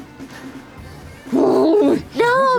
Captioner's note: growls